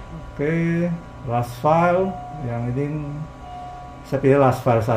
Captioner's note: doorbell sound